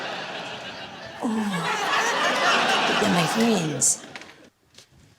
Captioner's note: whimpers